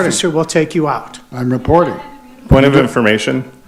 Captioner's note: group shouting